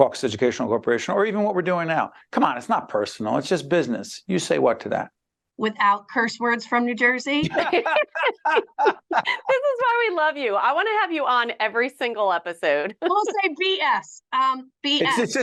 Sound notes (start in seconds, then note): 7.4 laughing